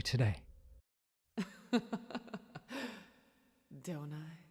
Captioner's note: sultry laugh